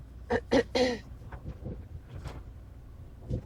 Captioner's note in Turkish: öksürme; boğazını temizler